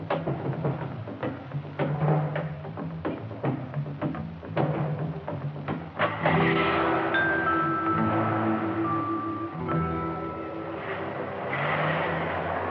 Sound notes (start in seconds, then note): 6.0 engine starting